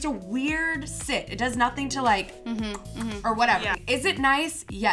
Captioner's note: clicks